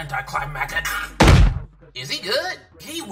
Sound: loud thud

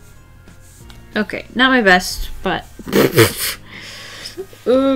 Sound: laughs

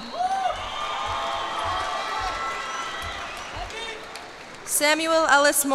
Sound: cheers and applause

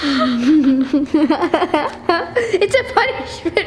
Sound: laughing

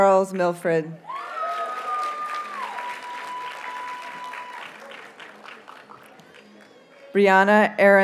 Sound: audience cheers and applauds

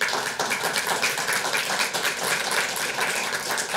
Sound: audience applauds

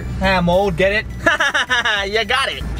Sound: laughs

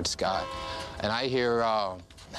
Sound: train whistle

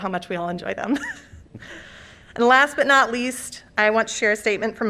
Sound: laughter

